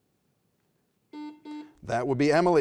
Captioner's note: buzzer beeps